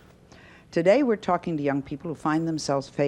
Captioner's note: none